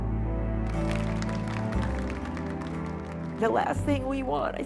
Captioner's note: applause